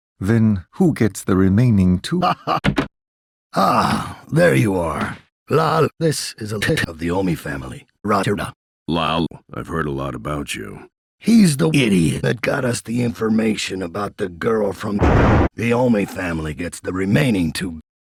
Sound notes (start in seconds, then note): 15.0 convenient thunder